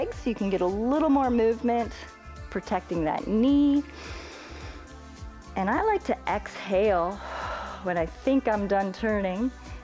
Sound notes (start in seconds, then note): 3.9 inhales; 7.1 exhales